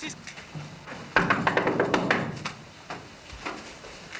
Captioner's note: raps on door